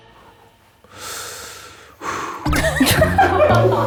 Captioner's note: deep sigh